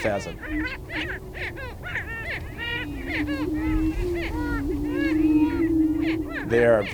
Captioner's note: squawking and cooing